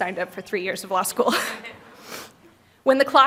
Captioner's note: laughter